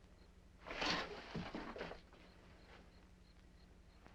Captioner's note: insects chirping